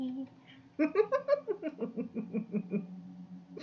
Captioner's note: laughs